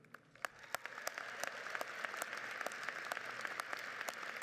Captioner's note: crowd applauds